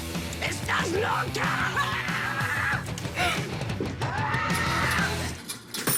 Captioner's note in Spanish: Gritos